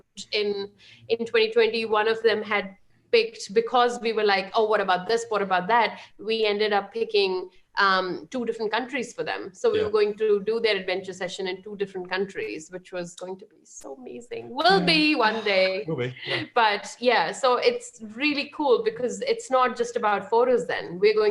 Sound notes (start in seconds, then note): 15.8 chuckles